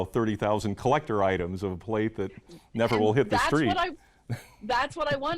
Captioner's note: laughs